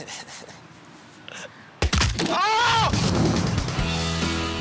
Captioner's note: laughing; bone snapping and yelling; upbeat music